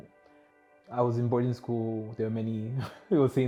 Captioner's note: chuckles